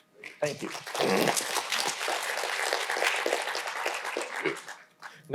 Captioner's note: audience applauding